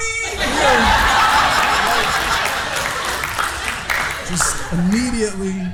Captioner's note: audience laughing